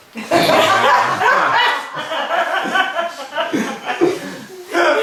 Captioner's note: cheerful laughing